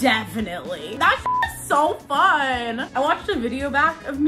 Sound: beep

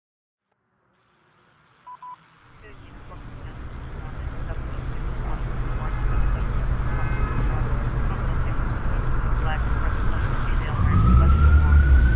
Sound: police scanner chatter

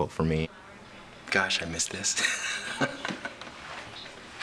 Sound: laughs

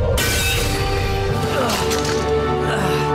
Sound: grunting

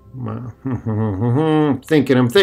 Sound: humming

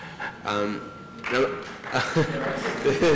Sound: applause

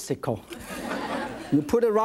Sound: audience laughs

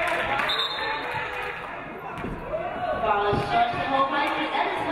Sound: referee blows whistle

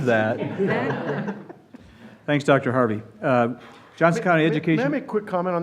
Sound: laughter

